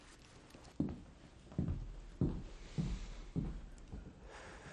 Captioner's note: footsteps thudding; sighing